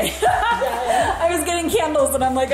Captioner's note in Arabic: يضحك